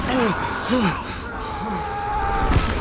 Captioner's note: man screaming